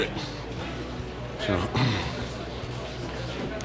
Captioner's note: cough